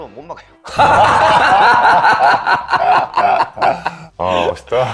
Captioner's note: laughing